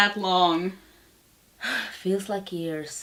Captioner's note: sighs